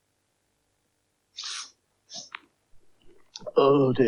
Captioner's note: Magician Sniffs